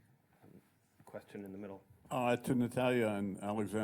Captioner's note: voiceover